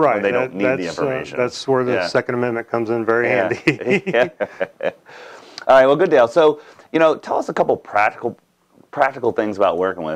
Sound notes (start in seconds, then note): 3.4 chuckling